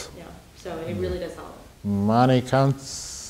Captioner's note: woman's Voice